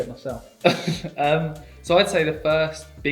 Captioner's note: laughing